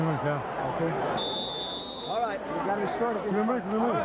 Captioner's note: whistle blows